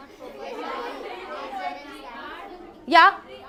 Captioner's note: giggles